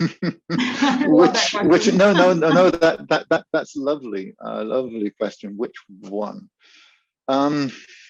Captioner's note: laughs